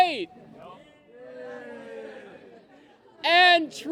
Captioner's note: cheers and applause